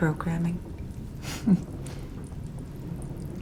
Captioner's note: scoffs